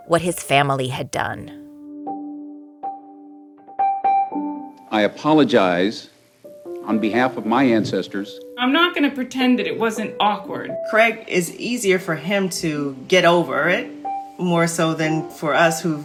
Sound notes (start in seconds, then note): 1.6 soundbite of archived recording